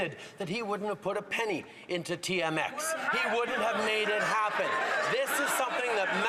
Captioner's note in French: voix de l'interprète